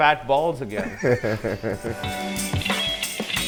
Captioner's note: comedians laugh; upbeat instrumental music